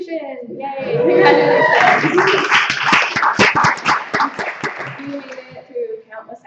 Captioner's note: applause, cheering